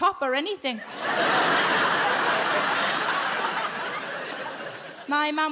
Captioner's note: audience laughing